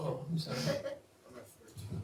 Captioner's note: laughs